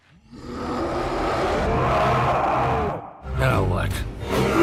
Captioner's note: distant Angry Roaring; King Kong growling